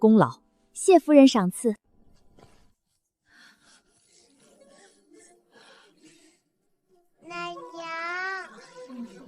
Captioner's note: baby crying